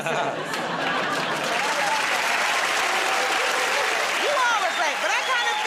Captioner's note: laughter and applause